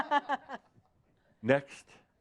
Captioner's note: laughs